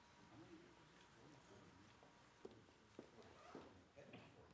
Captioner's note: people chattering